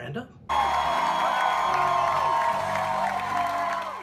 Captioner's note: audience cheering